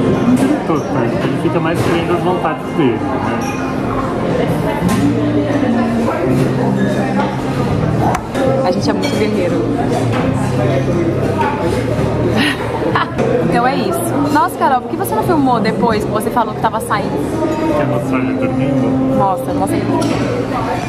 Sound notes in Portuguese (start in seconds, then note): 3.5 ambiência de restaurante; 12.3 risos